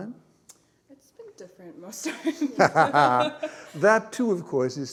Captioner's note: laughter